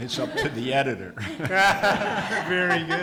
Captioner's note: audience laughs